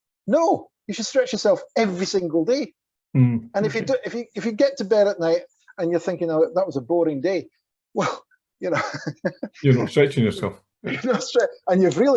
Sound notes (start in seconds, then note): 8.7 chuckles